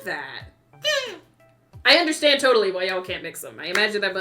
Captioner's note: happy noise